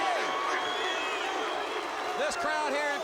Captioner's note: crowd cheering